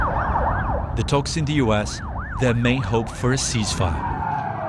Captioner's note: ambulance siren